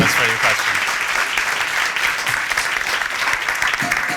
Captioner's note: applause